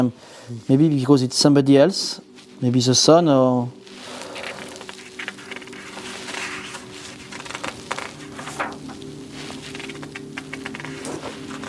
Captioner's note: sounds of pages turning